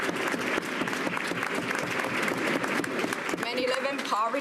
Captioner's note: cheers and applause